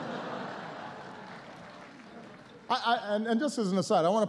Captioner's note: laughter